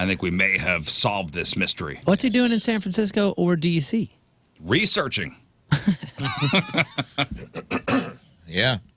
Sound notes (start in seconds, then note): 5.7 laughing